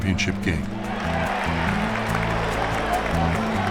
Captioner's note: cheering and applause